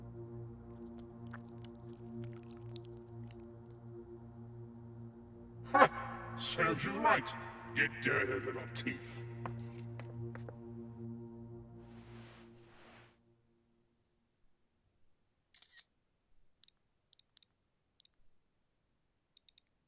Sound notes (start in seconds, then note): 0.9 blood squelching; 15.5 camera snapping; 16.8 phone clicking